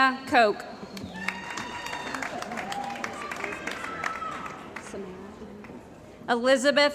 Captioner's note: cheering & Applause